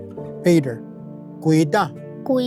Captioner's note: repeats in Cherokee